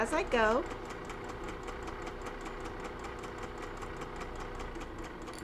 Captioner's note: sewing machine whirring